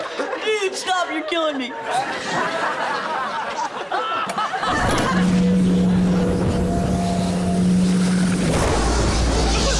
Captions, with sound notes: Dude, stop, you're killing me. [laughing]